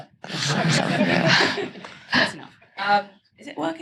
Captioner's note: audience laughing